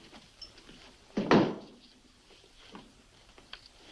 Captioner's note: stamps floor